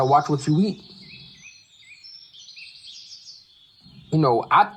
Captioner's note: birds chirping